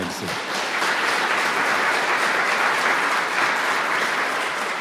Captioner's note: audience clapping